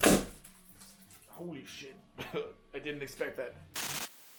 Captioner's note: cough